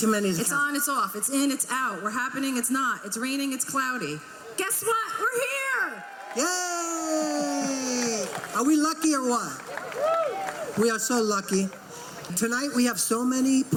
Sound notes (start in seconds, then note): 7.5 crowd clapping and cheering